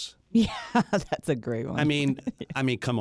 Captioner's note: laughs